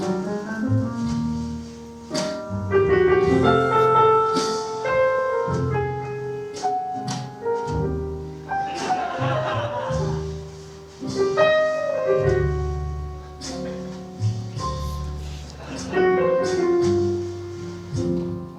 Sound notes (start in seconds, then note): 0.0 jazz piano continues; 8.6 audience laughing; 10.8 jazz piano continues